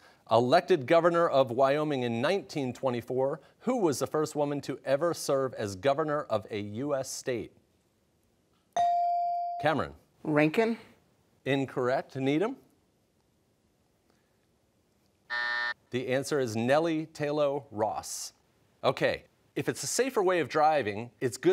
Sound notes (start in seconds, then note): 15.3 buzzer